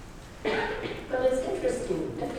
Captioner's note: coughing